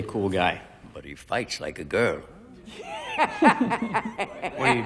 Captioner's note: laughs